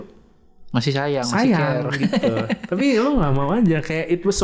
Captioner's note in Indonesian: tertawa